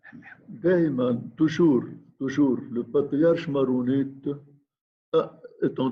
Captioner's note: speaking in foreign language